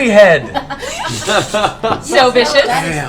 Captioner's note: laughter